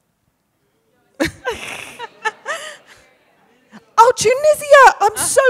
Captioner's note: audience murmuring; Ibtihaj laughs